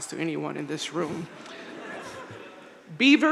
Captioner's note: crowd laughing